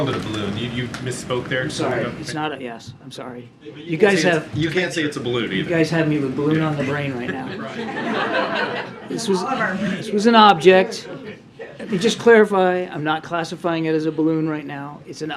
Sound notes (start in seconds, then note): 7.2 laughter; 9.9 laughs